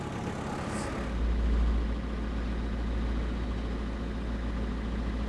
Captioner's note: crane engine rumbling